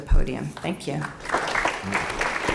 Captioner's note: applause